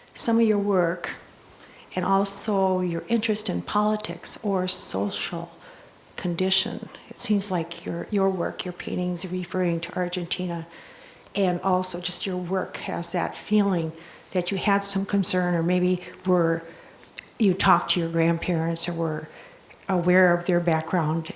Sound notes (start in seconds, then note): none